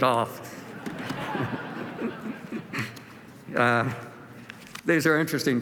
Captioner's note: laughter